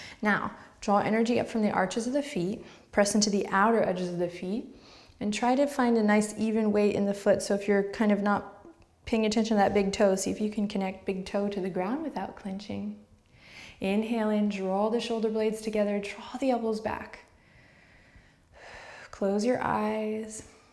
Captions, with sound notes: Now draw energy up from the arches of the feet, press into the outer edges of the feet and try to find a nice even weight in the foot so If you're kind of not paying attention to that big toe see if you can connect big toe to the ground without clenching. Inhale in, draw the shoulder blades together, draw the elbows back. (smooth breathing) Close your eyes.